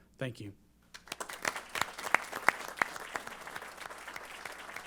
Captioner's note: applause